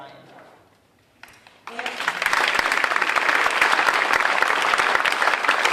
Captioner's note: audience applauding